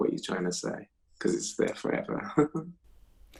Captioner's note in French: rire